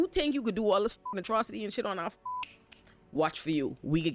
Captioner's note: beep